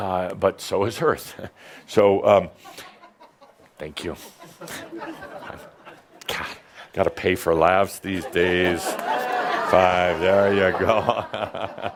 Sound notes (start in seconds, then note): 2.8 one person laughs; 8.1 laughter as he takes money out of his pocket